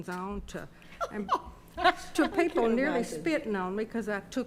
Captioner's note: attendees laughing